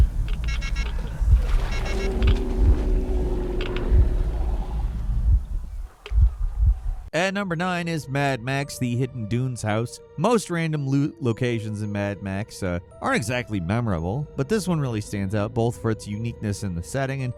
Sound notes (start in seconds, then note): 0.3 timer beeping; 1.0 monster groaning; 5.4 heartbeat thumping